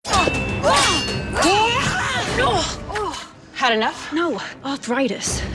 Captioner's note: swords clashing